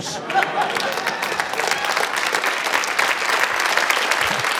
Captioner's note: applause